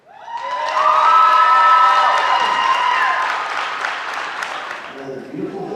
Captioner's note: applause